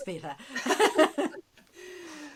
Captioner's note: laughing